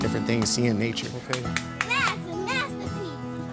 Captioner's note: woman claps